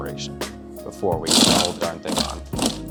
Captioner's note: machine buzzing